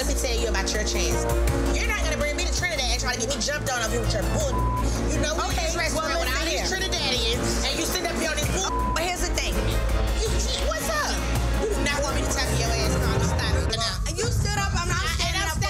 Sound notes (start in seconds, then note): 4.3 beep; 8.6 beep